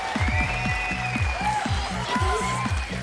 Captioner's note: dancers whispering excitedly